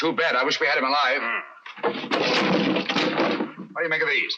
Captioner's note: knocking